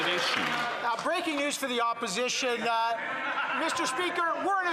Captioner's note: some Applause